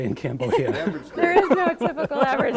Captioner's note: both laughing